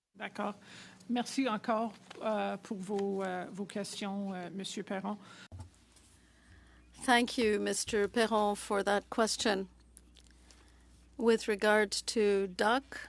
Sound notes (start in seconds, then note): 5.1 speaking French